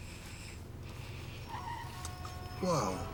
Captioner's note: horns honk, brakes screech